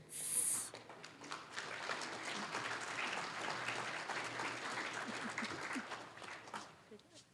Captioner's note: applause